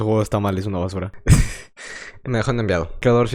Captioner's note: laughs through the pain